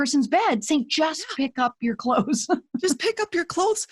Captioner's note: chuckles